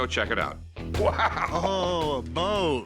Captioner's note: laughs